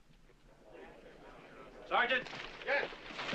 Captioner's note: people chattering